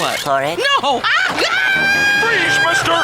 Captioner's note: screaming